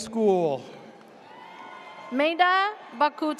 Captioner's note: audience cheers